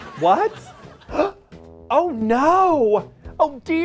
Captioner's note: gasps